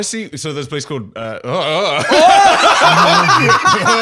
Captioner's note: laughing